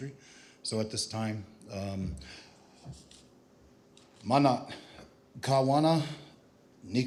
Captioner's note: non-english speech